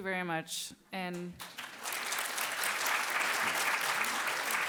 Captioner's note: clapping